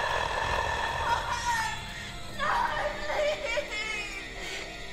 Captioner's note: sobbing